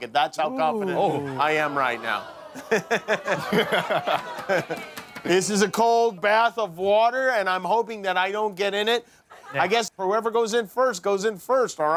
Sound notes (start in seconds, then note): 2.3 crowd oohing